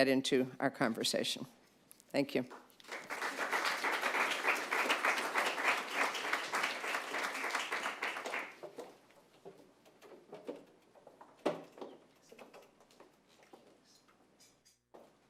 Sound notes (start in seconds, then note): 6.3 applause